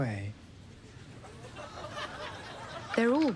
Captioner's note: scattered laughter